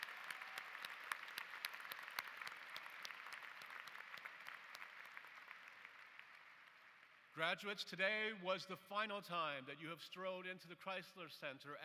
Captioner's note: applause